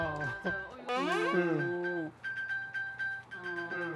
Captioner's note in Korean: '갑자기 들려오는 벨소리'